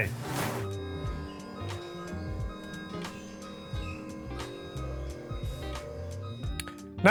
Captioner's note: desk machine whirring and beeping as it moves